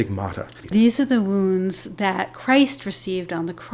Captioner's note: voiceover